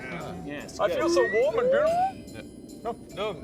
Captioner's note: slide whistle